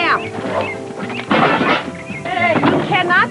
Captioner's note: boxes clunking